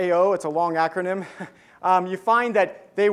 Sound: giggles

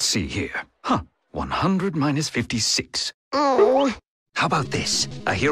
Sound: groan

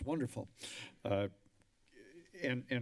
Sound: inhales loudly

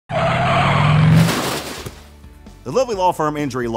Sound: tire squealing

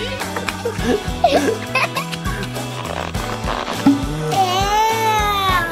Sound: continuous laughing; exclaims

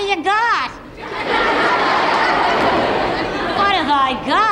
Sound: audience laughs

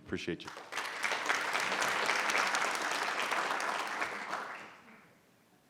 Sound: audience applauding

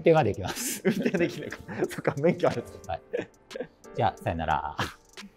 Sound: laughing

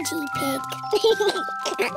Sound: giggles

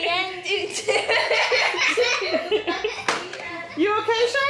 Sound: laughing

